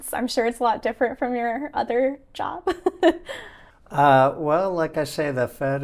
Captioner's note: chuckling